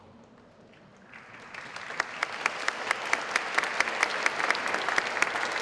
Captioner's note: audience applauding